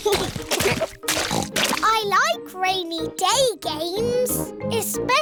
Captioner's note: both giggling; oinks